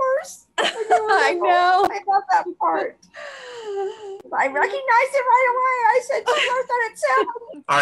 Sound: laughs

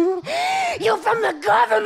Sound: gasps

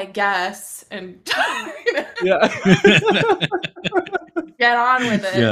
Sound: laughter

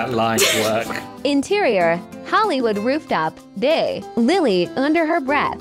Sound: AI Voice

